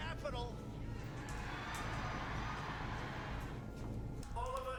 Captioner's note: crowd cheering